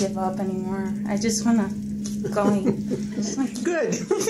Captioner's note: laughs